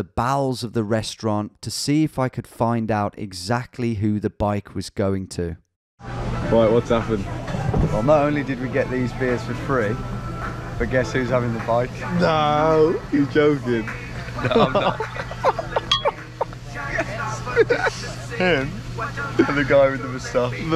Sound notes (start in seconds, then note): 14.3 both laughing